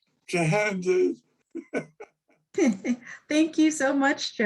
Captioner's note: laughs